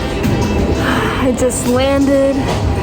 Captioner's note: sighs